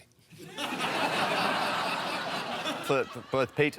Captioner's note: laughter